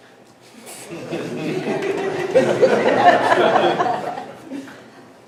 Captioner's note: everyone laughs awkwardly